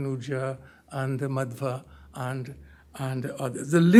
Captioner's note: hindi